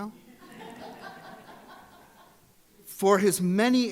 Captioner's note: audience laughs